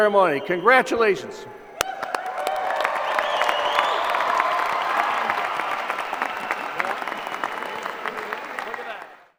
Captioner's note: applause